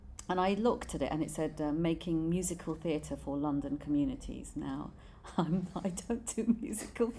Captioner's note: laughs